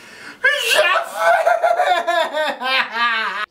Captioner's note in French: pleurs de désespoirs